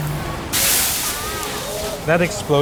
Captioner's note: fire hissing